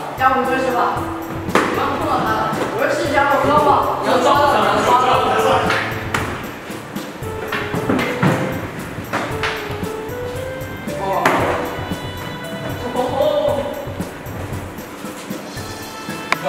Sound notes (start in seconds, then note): 6.1 another slap; 7.4 slap slap slap